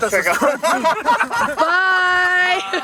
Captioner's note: laughs